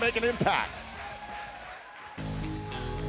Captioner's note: crowd cheering